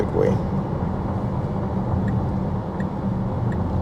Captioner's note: car engine